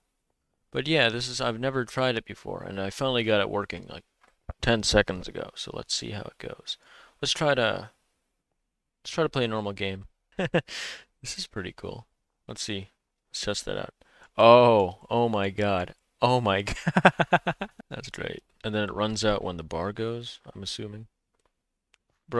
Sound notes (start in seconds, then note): 10.3 laughs; 16.7 laughs